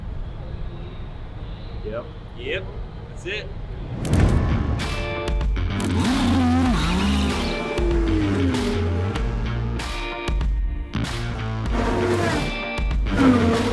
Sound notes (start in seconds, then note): 4.2 upbeat music; 4.8 engine roaring